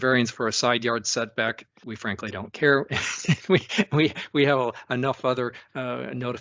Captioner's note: laughs